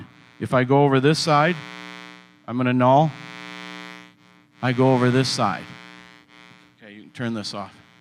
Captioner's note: buzz